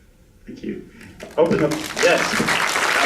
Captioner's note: applause